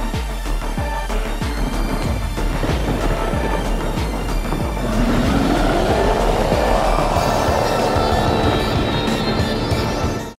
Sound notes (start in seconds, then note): 2.8 thunder cracking; 4.8 monster roaring